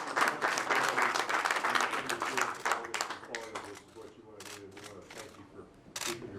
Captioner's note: applause